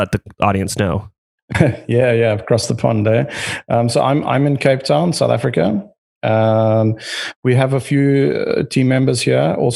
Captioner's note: laughs